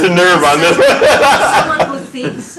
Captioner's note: laughs